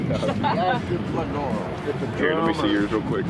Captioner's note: group chuckling; fisherman speaking happily